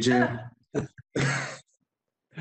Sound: laughter

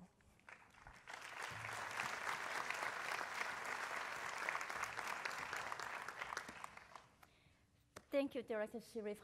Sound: applause

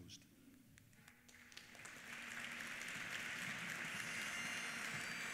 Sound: applause; bagpipes play

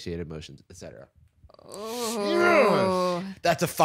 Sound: triumphantly

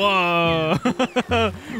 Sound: laughs

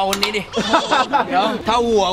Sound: laughs

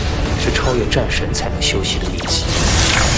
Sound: spark of Electricity

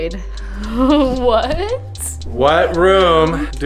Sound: laughs

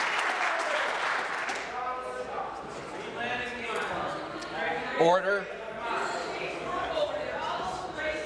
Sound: applause; voice trailing; applause

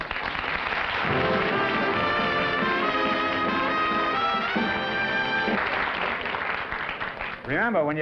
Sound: applause

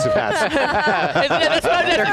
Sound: group laughs

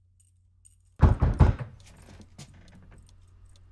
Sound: loud knocking

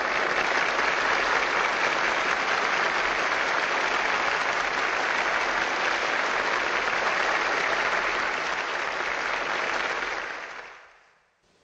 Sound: crowd applauding

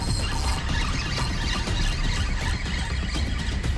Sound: suspenseful music continues; reel zipping

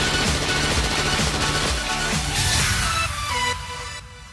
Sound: lasers firing; gun firing

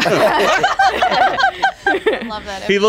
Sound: all laughing

